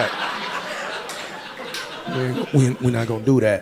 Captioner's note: audience laughing